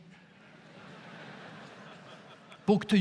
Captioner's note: audience laughs